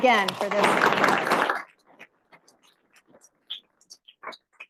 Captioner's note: audience applauding